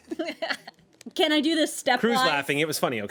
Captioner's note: woman laughs